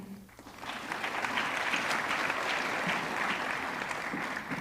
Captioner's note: audience clapping